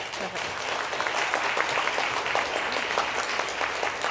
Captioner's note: applause